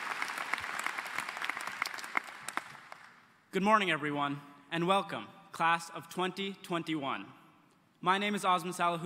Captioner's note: applause